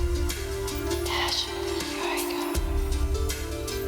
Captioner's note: breathily